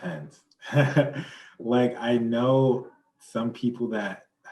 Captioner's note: laughs